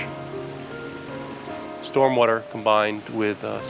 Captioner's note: water gushing